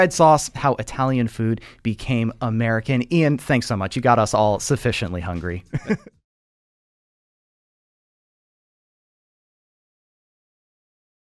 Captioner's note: laughs